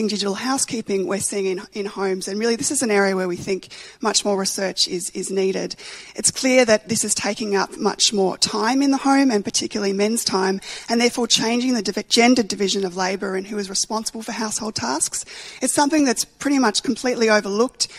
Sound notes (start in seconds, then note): none